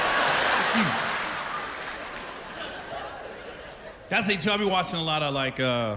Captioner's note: laughter